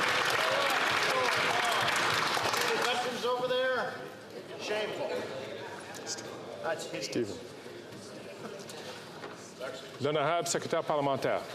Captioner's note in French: applaudissements